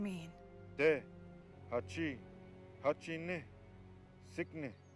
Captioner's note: speaking in foreign language